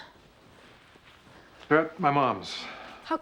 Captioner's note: sighs